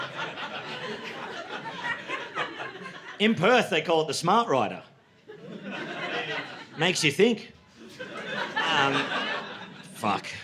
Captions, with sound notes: [LAUGHTER] In Perth, they call it the smart rider. [LAUGHTER] Makes you think, "Um, fuck."